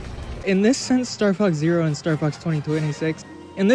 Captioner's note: stumbles on words